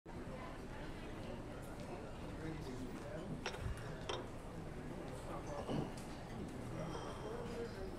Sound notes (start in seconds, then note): 0.1 people chatting softly in the background